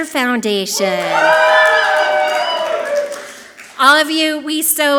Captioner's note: audience clapping and cheering loudly